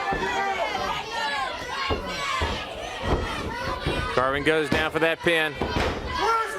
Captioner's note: crowd chatter